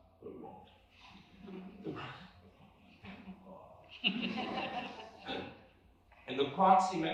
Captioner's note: laughter